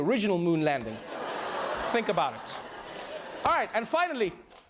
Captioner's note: laughter, groaning